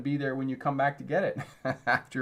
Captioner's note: laughs